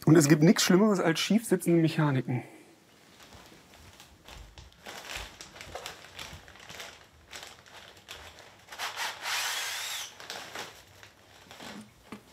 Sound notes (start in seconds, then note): 8.3 rustling